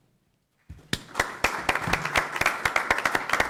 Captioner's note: applause